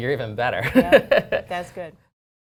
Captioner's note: laughter